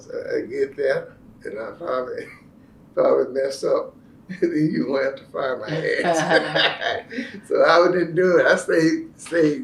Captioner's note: laughter